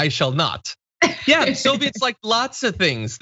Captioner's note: laugh